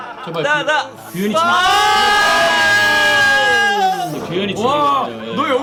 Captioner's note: screaming